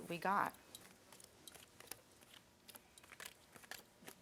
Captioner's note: cards flipping